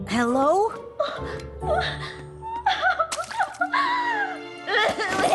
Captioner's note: sobbing; bawling